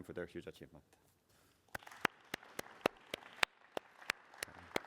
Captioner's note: applause